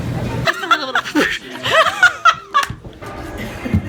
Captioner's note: laughs